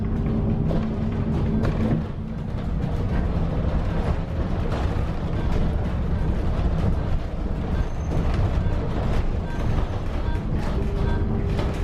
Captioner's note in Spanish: El sonido natural del bus Yutong E 12 LF